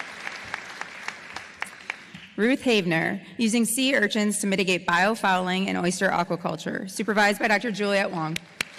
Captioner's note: applause